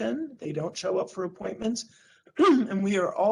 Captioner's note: clears throat